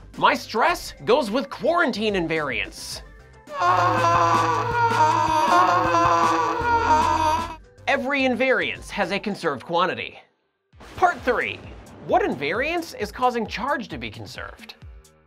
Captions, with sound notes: My stress goes with quarantine invariance. [Screaming] Every invariance has a conserved quantity. Part Three! What invariance is causing charge to be conserved?